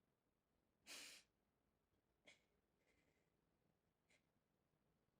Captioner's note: sniffling and crying